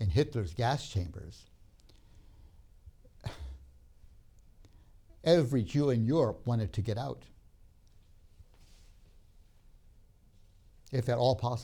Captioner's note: sighs